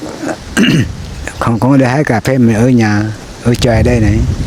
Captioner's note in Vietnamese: hắng giọng